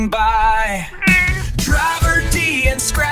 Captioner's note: meow!